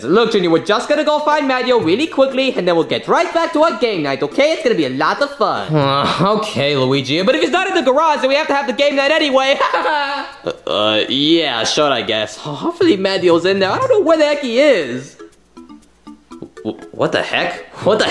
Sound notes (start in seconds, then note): 9.4 laughs; 15.8 upbeat music